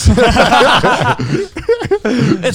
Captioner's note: group laughing